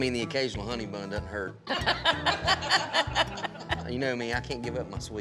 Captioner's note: everyone laughs